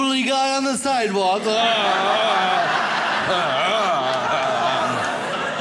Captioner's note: grunts; audience laughs